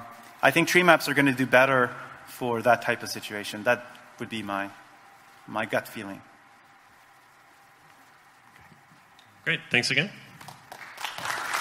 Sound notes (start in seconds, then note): 10.3 audience applauding